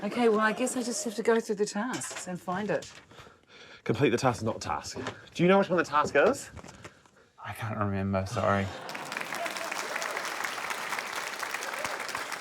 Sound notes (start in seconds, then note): 8.5 laughter; 8.7 applause